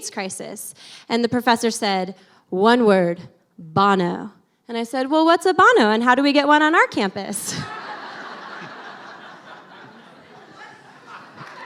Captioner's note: laughter; applause